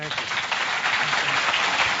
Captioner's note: applause